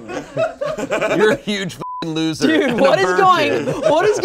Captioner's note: beep